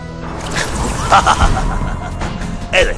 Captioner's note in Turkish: Kahkaha atar